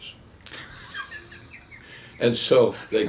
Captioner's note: chuckles